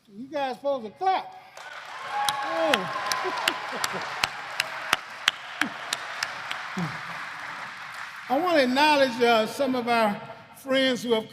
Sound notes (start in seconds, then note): 1.5 applause